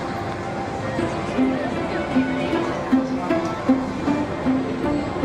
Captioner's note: people chattering